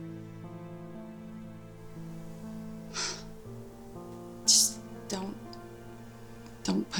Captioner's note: sighs